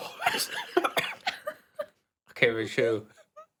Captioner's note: laughing